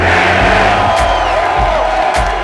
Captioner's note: cheering